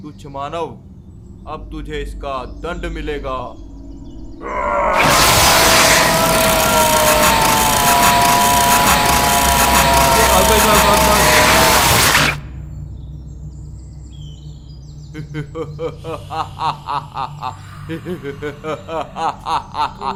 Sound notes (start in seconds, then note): 6.2 boy 1 screams; 15.1 evil laughter